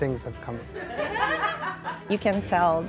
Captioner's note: laughs